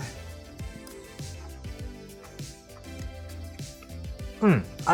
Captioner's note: chewing